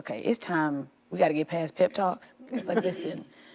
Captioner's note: quiet laughter